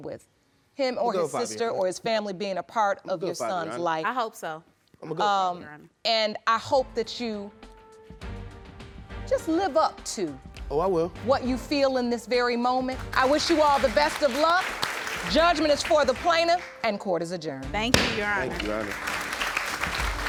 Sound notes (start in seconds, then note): 13.0 audience applauding